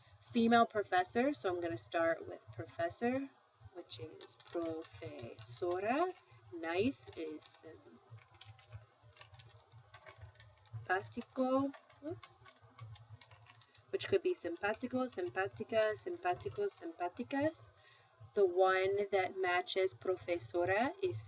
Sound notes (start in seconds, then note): 4.4 spanish; 6.8 spanish; 13.0 speaking spanish; 19.1 spanish